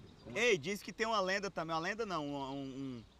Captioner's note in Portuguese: none